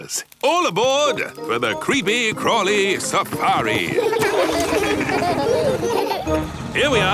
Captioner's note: laughing